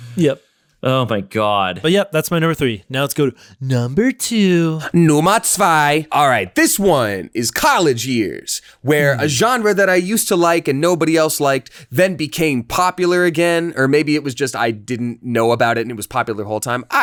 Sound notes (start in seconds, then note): 5.2 speaks in German